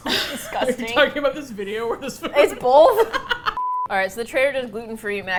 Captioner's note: laughs